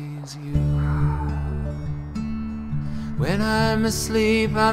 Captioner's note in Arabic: تنهد